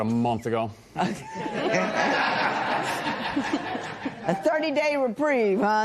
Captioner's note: laughter